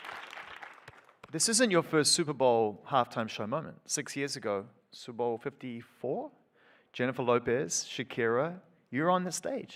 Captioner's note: aplausos